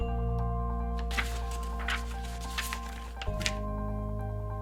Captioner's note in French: bruit de papiers